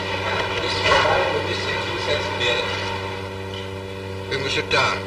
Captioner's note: speaks foreign language